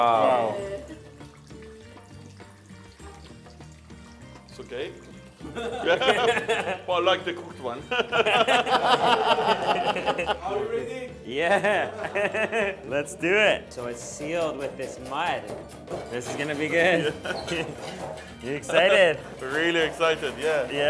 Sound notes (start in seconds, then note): 5.4 they laugh; 12.1 laughs